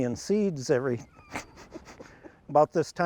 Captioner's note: laughs